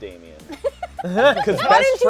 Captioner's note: laughing